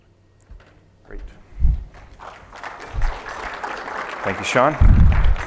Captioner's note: applause